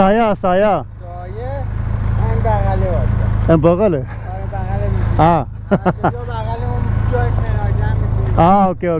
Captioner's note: speaking in Persian